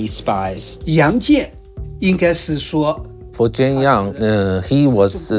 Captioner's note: speaking in foreign language